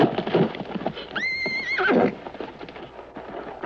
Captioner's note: horse neighing